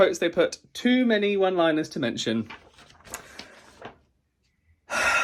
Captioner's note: sighs